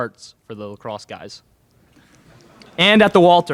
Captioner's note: laughter in crowd